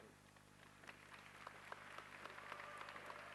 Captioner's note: applause